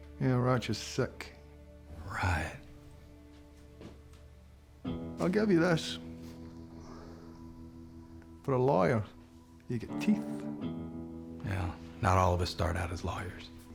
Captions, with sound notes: YEAH, RATCHET'S SICK. [SAYS SARCASTICALLY] RIGHT. [SCOTTISH ACCENT] I'LL GIVE YA THIS... FOR A LAWYER, YOU'VE GOT TEETH. WELL, NOT ALL OF US START OUT AS LAWYERS.